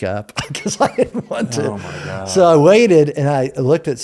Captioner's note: laughs